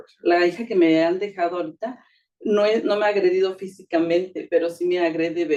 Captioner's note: speaking Spanish